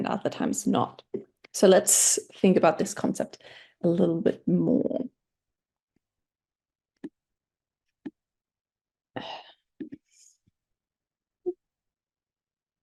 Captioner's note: pause